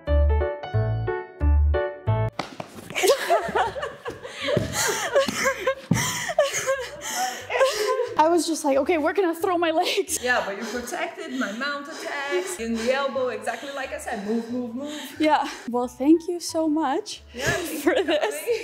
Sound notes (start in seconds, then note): 2.9 both laughing; 17.4 both laughing